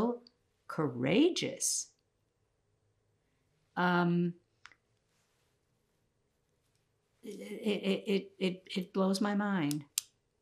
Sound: pauses 8 seconds

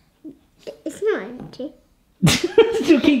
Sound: laughs

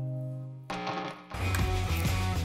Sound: guitar strumming; electricity crackling; electric guitar music

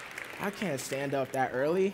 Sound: applause

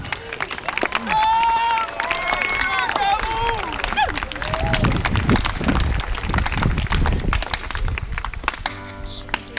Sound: applause and cheering

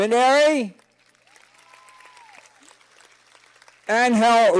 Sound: cheers and applause

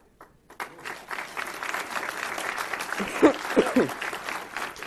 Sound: audience applause

